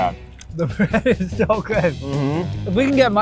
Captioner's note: laughs